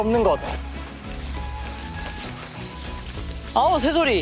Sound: bird chirping

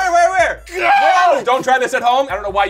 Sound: yells

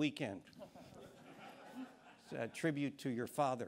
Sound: audience chuckling

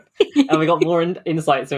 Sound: laughs

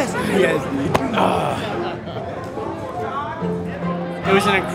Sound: Buddy grunts

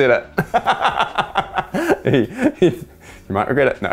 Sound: laughter

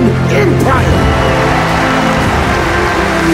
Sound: cheers and applause

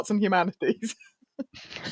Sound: laughs

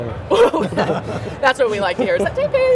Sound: laughs

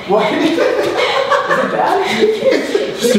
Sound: laughs

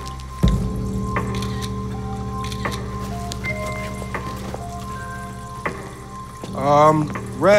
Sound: camera shutter clicking

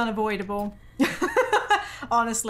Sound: laughing

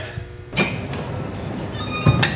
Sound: door Squeaks

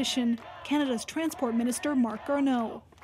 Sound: chanting

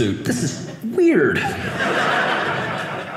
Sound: audience laughing

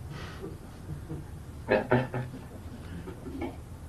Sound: laughs

